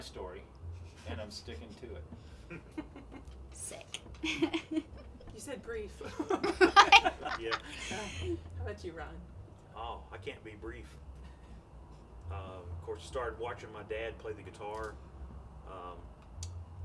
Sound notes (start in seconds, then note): 4.2 chuckling; 6.0 group laughing